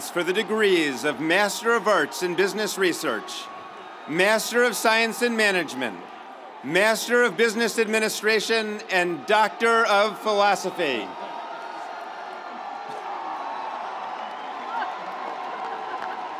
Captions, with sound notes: for the degrees of Master of Arts in Business Research, Master of Science and Management, Master of Business Administration, and Doctor of Philosophy. (audience cheering)